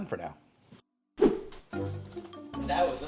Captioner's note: air whooshing